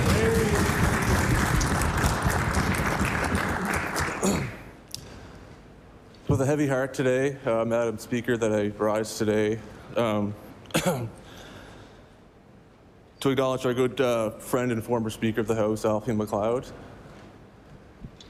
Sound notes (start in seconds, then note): 4.8 applause